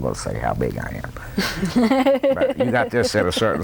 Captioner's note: laughter